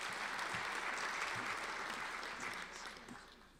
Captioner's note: applauding